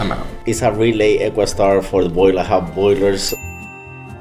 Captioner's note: ding